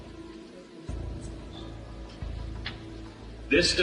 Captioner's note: background chatter; dramatic music